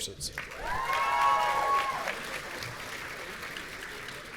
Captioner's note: audience cheering